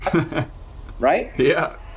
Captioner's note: laughs